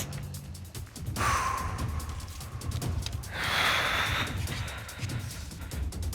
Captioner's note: sniffles; both exhales heavily